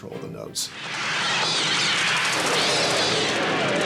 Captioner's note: birds shrieking